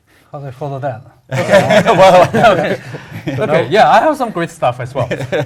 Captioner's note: laugh